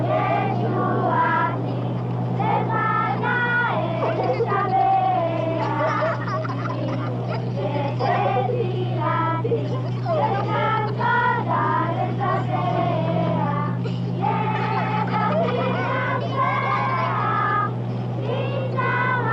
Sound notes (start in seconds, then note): 1.3 children laughing